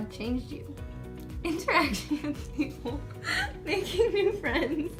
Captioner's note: laughter